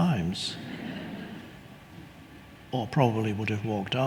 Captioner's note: audience laughing